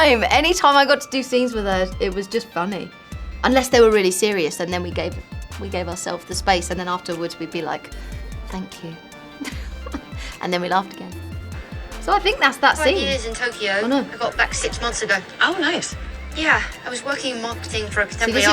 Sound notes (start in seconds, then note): 9.4 chuckles